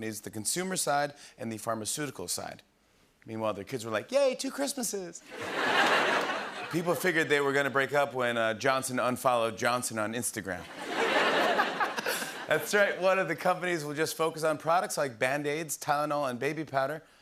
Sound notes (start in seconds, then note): 5.3 laughter and applause; 10.6 laughter